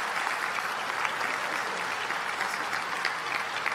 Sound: applause

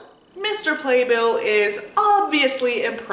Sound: none

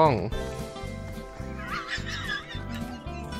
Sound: laughs

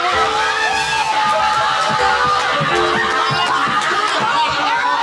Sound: cheering, shouting

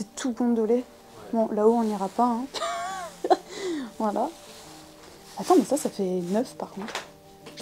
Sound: laughing

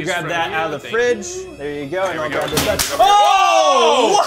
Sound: glass shattering

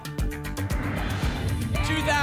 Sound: whoosh

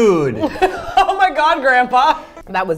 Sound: giggling

